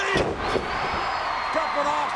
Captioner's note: audience cheers